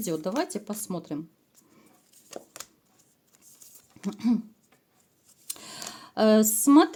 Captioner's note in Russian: откашливается